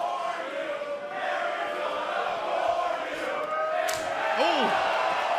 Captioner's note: fans chanting